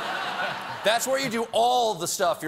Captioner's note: laughter